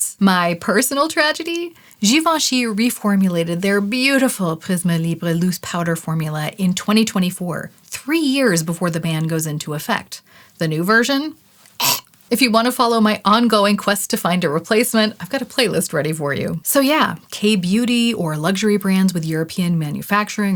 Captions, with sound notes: My personal tragedy? Givenchy reformulated their beautiful Prisme Libre loose powder formula in 2024 – three years before the ban goes into effect. The new version? *retch* If you want to follow my ongoing quest to find a replacement, I've got a playlist ready for you. So yeah. K-beauty or luxury brands with European manufacturing